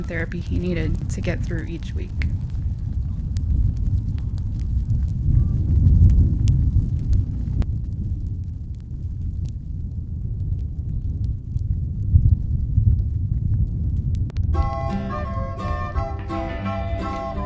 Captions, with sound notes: possibly the most important therapy he needed to get through each week. (wind blowing) (fire crackling)